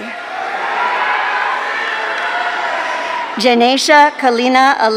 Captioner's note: audience cheering